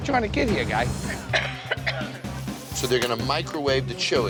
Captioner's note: coughing